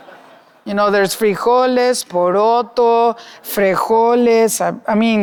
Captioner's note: audience laughing; speaking Spanish